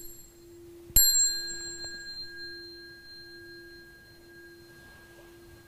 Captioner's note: bell